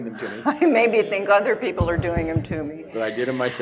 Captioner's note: laughs